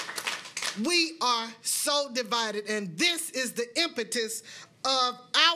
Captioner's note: applause